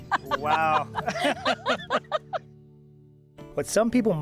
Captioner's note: laughing